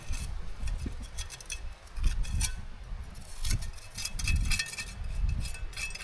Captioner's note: wind blowing